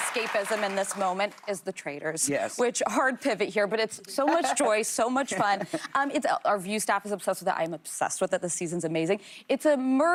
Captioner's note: applause